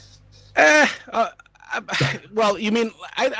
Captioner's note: groans